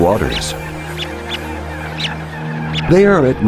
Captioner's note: chick chirping